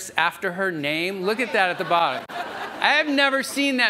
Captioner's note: audience laughs